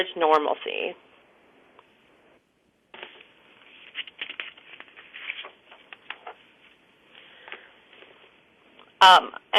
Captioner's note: pause